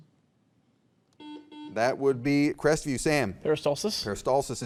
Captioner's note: buzzer beeps